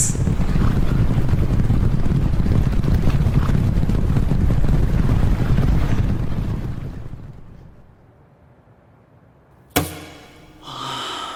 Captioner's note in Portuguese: som de cavalos galopando